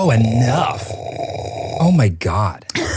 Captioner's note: person slurping